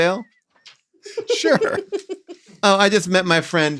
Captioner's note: all laughing